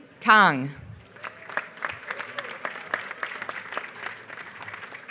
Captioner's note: applause